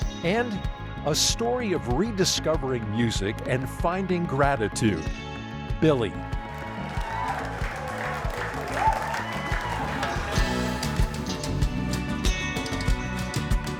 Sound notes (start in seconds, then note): 6.2 crowd cheers and claps; 10.8 festive music